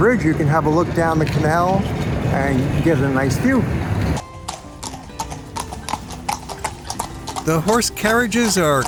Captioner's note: horsehoofs beat pavement